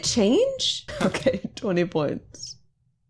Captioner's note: laughing